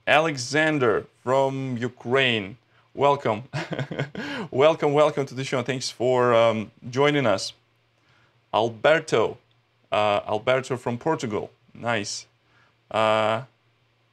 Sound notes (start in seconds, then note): 3.5 chuckles